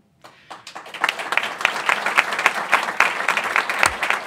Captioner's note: applause